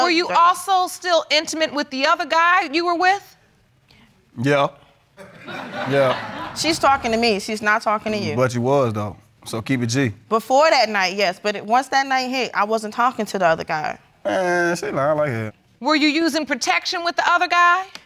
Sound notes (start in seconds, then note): 5.2 audience laughing